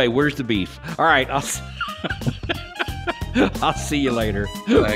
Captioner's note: upbeat music; laughing